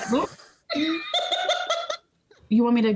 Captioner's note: laughing